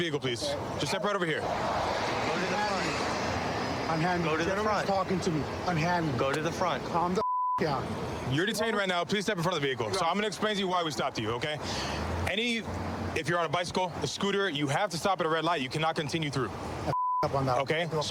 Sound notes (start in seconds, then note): 7.2 beep